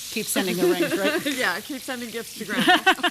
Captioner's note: both laugh